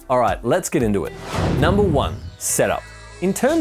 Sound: whooshing

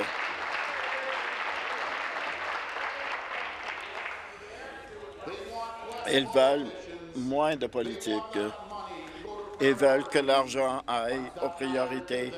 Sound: applause

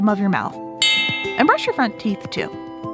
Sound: switch bell

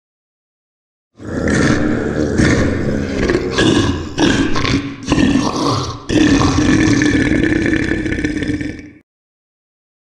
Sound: sound of a monster

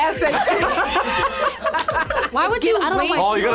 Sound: group laughs

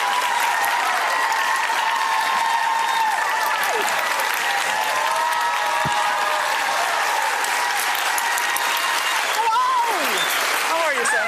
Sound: applause

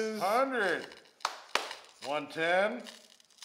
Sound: claps

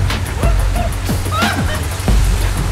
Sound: water splashes; screams

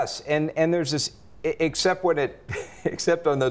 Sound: chuckles

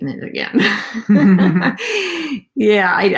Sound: laughing

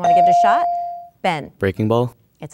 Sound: dinging

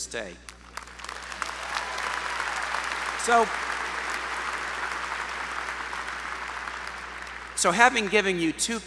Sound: applause

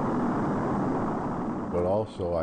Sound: rocket vrooming

